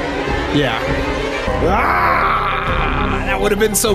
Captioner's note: screams